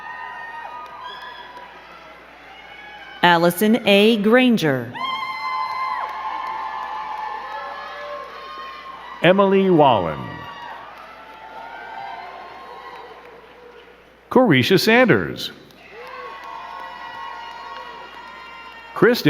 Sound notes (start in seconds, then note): 0.0 crowd cheering and clapping; 4.9 crowd cheering and clapping; 15.6 crowd cheering and clapping